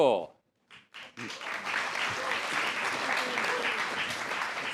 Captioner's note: applause